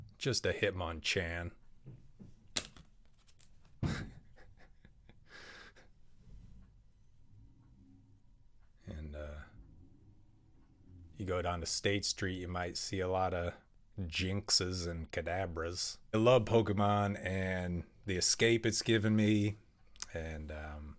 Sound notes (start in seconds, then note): 3.9 laughs